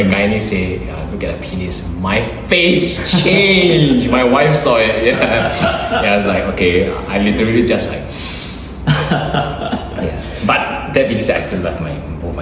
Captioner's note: breathes in